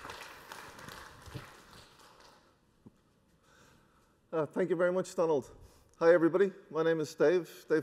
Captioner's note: applause